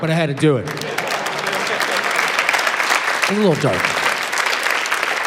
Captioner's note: applause